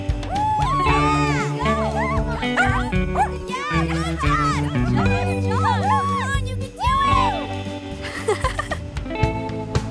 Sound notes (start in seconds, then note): 0.1 friends cheering; 2.5 Murph barking; 8.0 Joss laughs; 9.7 gentle music